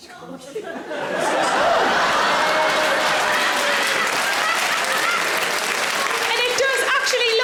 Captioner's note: audience laughing; audience applause